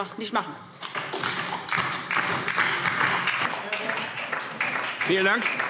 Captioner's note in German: Beifall DIE LINKE und vereinzelt SPD